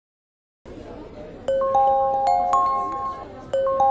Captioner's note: phone rings